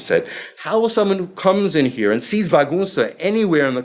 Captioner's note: speaking foreign language